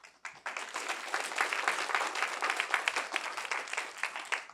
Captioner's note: applause